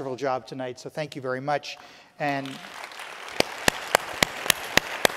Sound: audience applauding

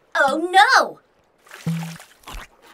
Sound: munching

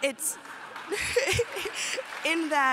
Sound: applause

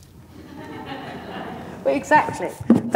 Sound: audience laughs quietly

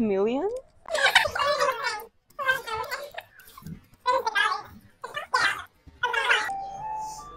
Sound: sped-up voices

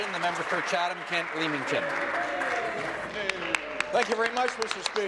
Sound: applause

